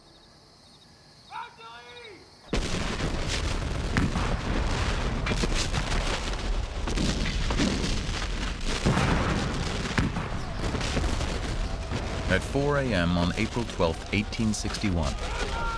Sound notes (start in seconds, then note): 1.3 man shouts; 2.2 canon fire